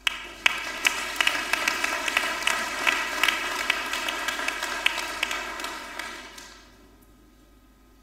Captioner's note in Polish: oklaski